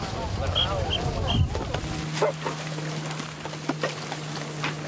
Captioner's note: whistle tweeting